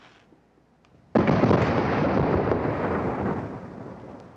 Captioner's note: match strikes; car explodes